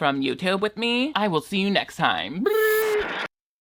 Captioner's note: hums